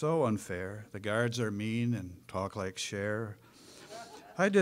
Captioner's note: audience laughing